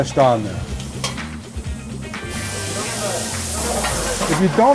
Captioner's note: meat sizzling